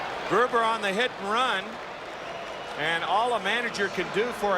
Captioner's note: applause